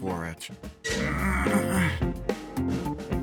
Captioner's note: groaning